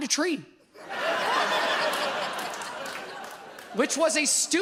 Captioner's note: audience laughs